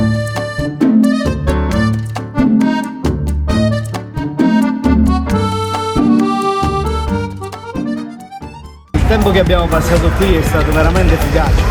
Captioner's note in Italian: Applauso